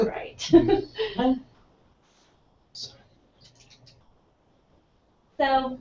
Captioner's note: laugh